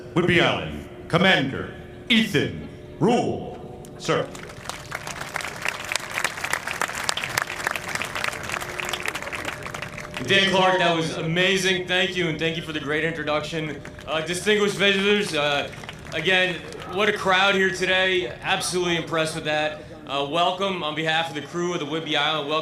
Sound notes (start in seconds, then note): 8.3 applause